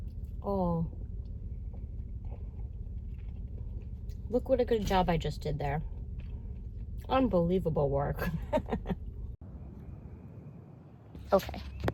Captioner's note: laughs